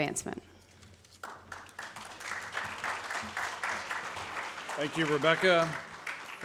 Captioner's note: audience claps